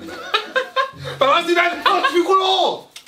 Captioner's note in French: Rires; En riant plus fort